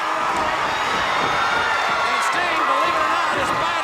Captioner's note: crowd cheers